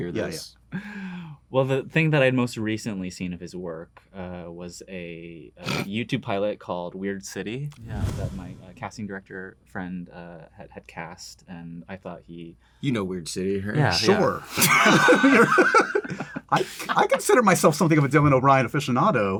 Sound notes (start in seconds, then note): 14.5 laughter